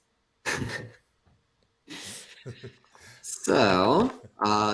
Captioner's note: laughter